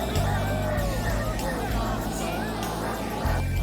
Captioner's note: group chattering